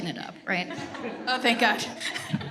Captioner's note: everyone chuckles